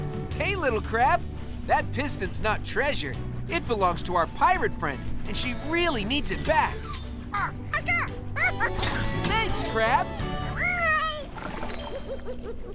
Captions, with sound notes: Hey, little crab, that piston's not treasure. It belongs to our pirate friend. And she really needs it back. [squeaking] Thanks, crab! [giggling]